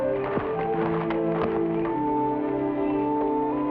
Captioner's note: footsteps patter